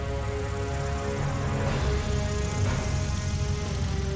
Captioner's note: dramatic music; wheels rumbling; ground churning